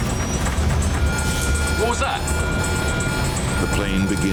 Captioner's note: alarm beeping